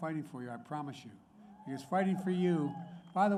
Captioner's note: applause